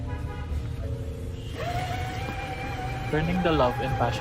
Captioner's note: coffee grinder whirs